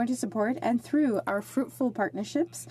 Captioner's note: speaking French